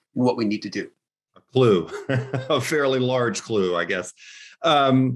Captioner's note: chuckles